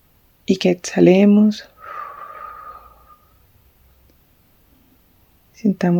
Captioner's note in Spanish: suspiro